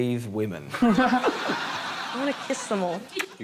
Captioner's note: laughter